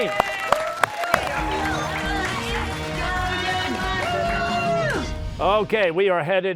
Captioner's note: cheers and applause